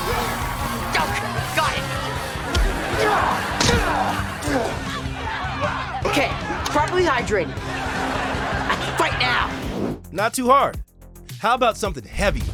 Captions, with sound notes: Oh, got it! [grunting] Okay, I'm properly hydrated. I can fight now! Not too hard. How about something heavier?